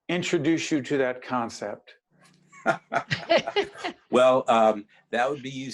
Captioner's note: laughing